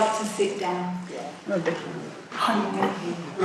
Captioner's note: voiceover